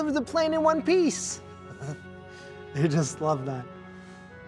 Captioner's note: laughs